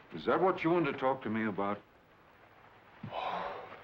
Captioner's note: sighs